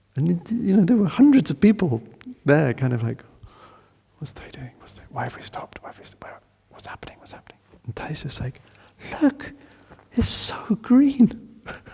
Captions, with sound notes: And there were hundreds of people there kind of like, what's Thay doing? (Whispering) Why have we stopped? Where? What's happening? And Thay's just like, "Look! It's so green!"